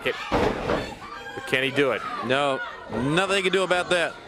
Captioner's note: crowd chatter